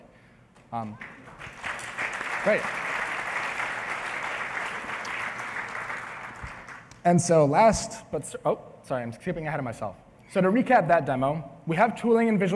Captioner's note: applause